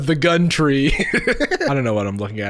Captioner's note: laughing